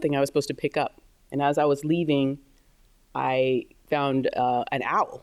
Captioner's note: none